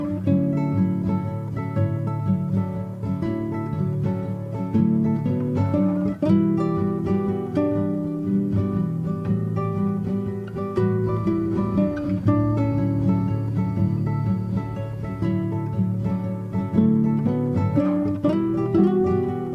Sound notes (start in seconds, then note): 10.7 fast train